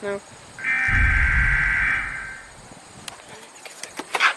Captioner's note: beep of death